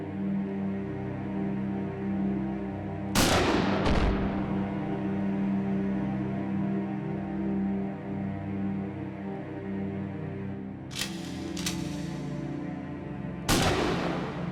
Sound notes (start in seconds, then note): 3.1 gunshot; 10.9 gun cocks